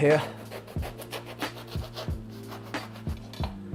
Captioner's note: knife slicing